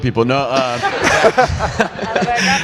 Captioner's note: audience laughs